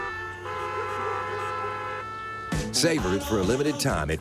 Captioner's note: cars honking